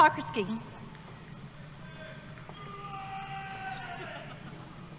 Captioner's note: cheering